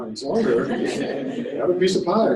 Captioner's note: laughter